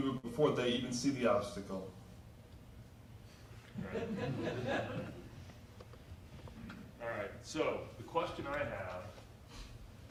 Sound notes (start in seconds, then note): 3.7 audience members laugh